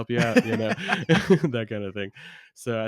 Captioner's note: laughs